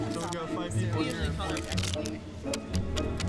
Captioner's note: chatter